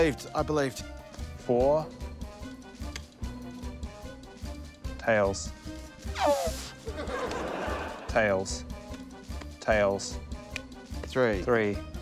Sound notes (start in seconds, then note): 6.8 splutters